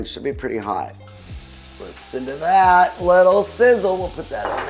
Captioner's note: meat sizzling